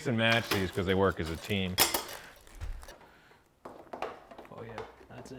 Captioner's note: tools clinking